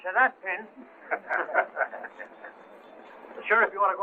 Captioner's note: laughter